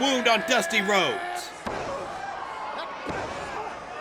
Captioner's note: grunts